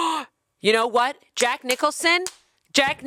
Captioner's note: clapping